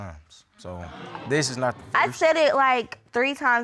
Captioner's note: audience exclaiming